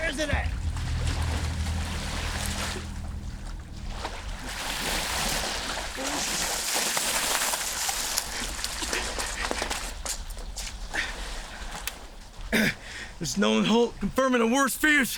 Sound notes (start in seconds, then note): 2.8 tense music; 8.0 water splashing